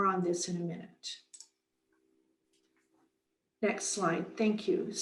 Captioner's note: mouse clicks